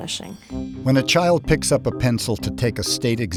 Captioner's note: voiceover